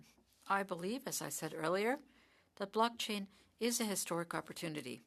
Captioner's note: speaking French